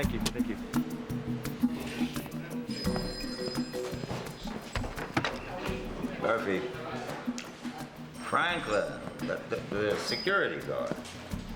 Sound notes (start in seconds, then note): 2.7 phone ringing